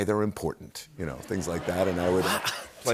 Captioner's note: laughter